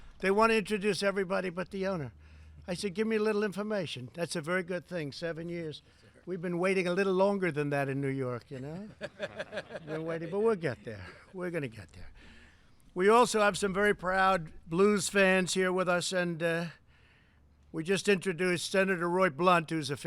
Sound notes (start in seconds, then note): 8.6 laughter